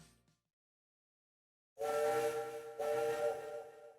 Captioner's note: shen whistles